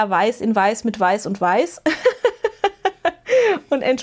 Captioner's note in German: gelächter